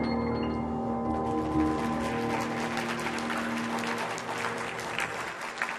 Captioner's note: audience applauds